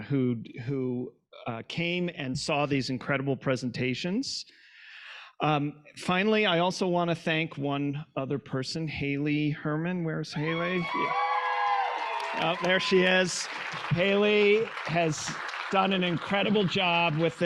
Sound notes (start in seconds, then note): 10.4 audience cheering; 10.5 audience applauding